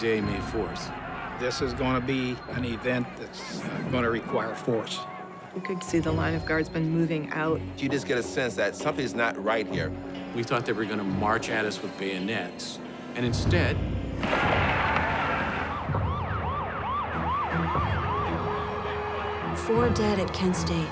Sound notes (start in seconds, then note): 14.2 gunfire; 15.0 siren wails